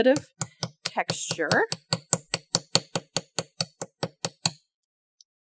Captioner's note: light hammering